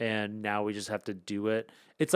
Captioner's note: none